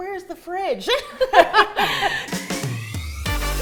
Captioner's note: laughing; bright upbeat music